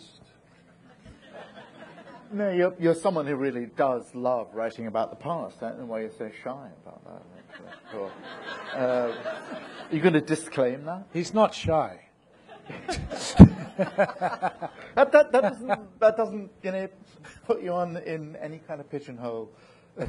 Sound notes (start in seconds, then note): 0.9 audience laughing; 7.4 audience laughing; 12.4 people laughing